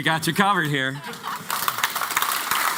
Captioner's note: applause